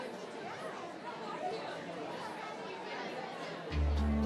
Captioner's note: attendees chattering